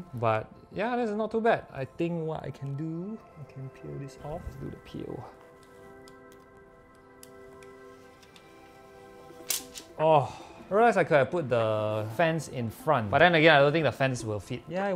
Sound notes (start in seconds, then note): 4.6 satisfying peeeeeeeel; 9.9 orgasm sound